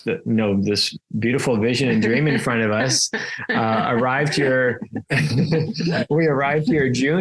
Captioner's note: laughs